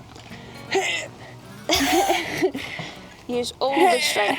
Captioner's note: grunts